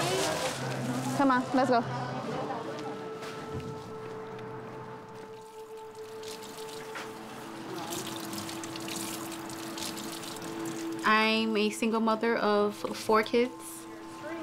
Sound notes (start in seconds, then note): 5.2 water splashing